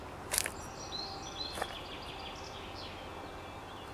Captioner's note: birds chirp